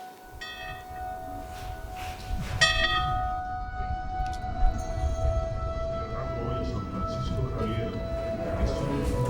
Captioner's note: bell ringing